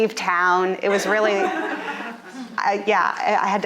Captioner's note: audience laughing